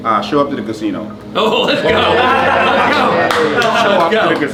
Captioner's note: all cheer